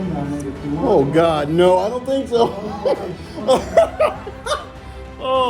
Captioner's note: laughs